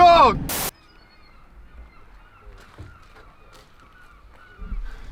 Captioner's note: cheering; static whirring; seagulls calling